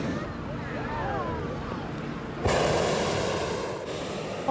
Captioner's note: people talking